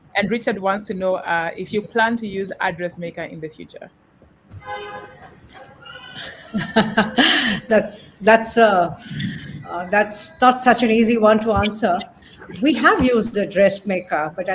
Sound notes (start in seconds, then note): 5.2 chuckling